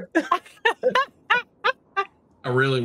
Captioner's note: laugh